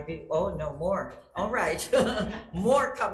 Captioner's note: chuckles